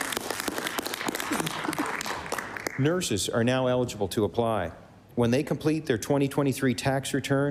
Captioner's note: applause